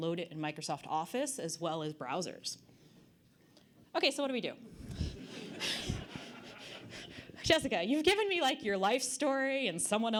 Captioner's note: audience Laughter